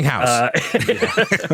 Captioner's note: laughter